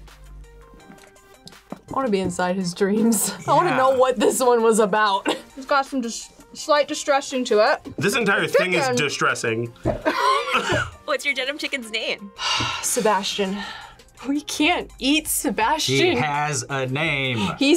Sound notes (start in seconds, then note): 10.0 laughs; 12.4 sighs